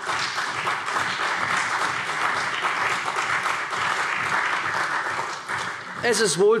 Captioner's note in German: Beifall CDU und BÜNDNIS 90/DIE GRÜNEN